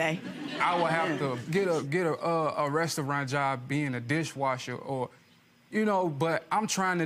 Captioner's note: audience chuckling